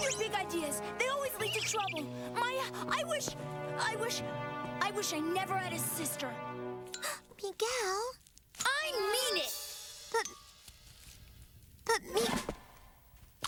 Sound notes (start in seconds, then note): 7.0 gasp